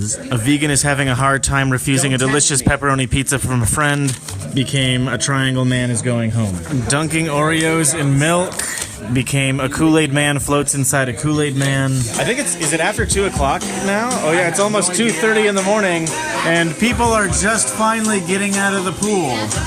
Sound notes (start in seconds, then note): none